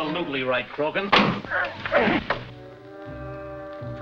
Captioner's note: smacking; groaning